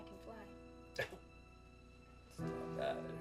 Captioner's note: laughing